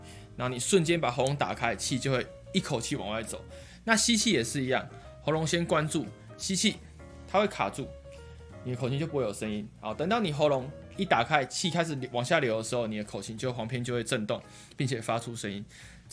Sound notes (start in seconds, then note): 3.5 inhaling